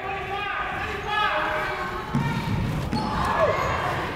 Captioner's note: people shouting in the crowd